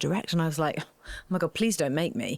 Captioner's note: scoffing